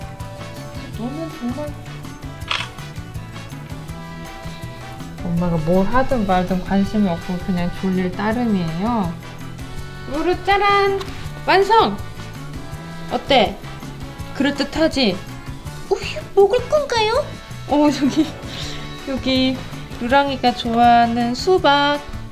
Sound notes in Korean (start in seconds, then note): 2.4 찰칵!; 18.0 웃음